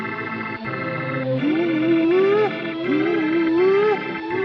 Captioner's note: humming